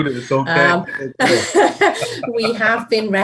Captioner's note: laughing